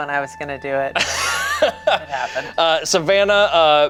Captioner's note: laughs